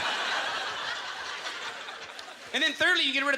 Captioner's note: audience laughter